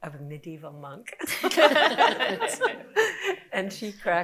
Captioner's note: group laughing